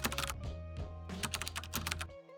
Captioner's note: keyboard clicking